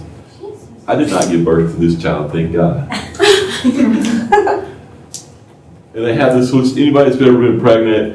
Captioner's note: laughter